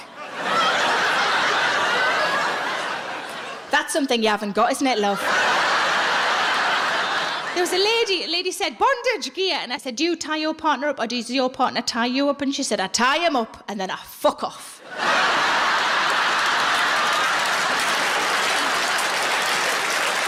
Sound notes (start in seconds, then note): 0.0 audience laughs; 14.8 audience laughs and applauds